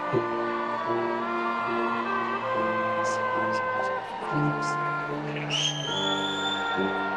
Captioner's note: attendees cheering and whistling